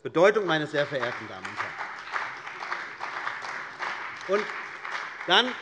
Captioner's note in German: Beifall bei der CDU und dem BÜNDNIS 90/DIE GRÜNEN